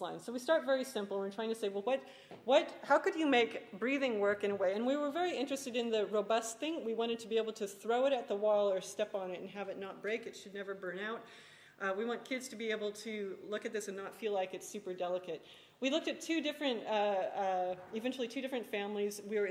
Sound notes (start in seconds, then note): none